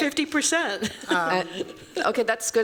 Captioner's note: chuckles